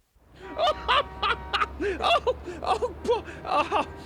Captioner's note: laughs